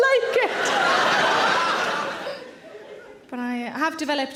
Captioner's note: audience laughing